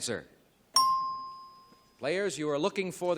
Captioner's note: ding